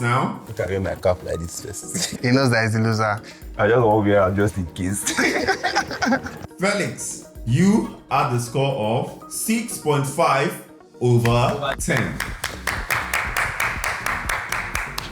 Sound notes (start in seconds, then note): 5.0 laughter; 11.2 applause